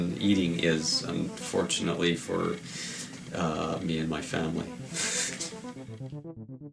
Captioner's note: laughs; gentle otherworldly music